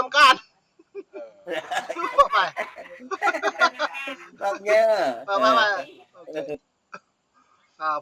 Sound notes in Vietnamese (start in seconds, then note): 1.4 Tiếng cười